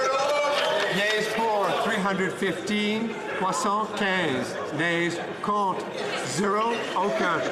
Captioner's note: laughter